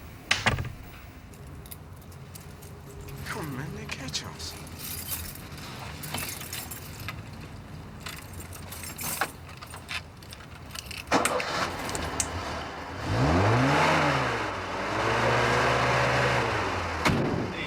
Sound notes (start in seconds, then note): 11.0 starts engine; 13.9 revs engine